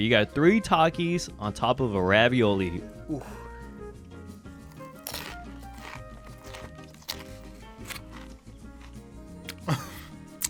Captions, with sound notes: You got three Takis on top of a ravioli. - Ooh. (light music) (Takis crunch)